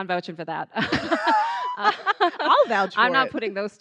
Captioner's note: laughing